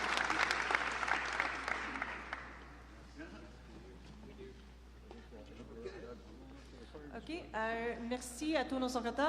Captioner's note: applause